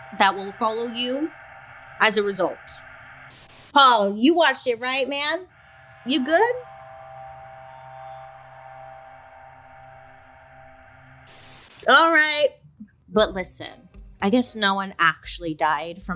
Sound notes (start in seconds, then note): 3.4 static buzzes; 5.4 static hums; 11.6 static buzzes